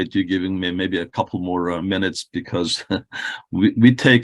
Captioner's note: chuckles